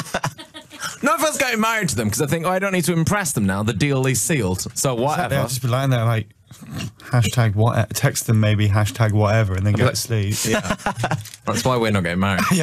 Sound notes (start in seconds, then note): 6.7 humf